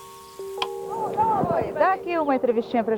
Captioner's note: tv turns on